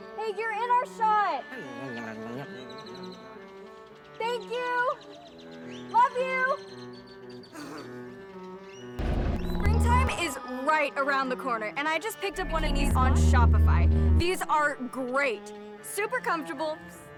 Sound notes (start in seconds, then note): 6.8 birds chirp; 7.8 peaceful violin music